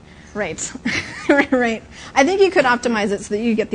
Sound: laughs

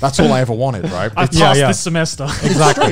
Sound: laughs

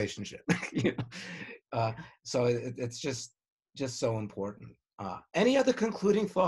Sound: laughs

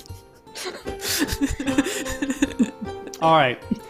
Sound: chuckles

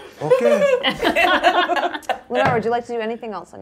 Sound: all laughing

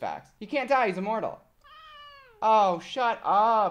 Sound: meows

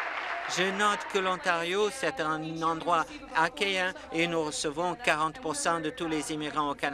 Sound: applause

